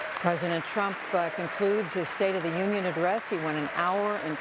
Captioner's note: cheers and applause